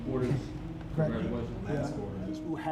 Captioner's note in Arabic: يتحدث بصوت خافت